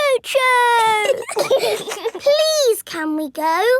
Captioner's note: giggling